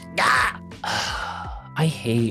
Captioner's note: sighs